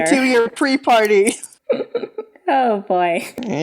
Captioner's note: chuckling